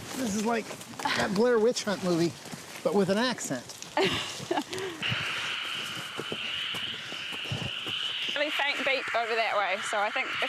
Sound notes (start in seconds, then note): 3.9 laughing; 4.0 static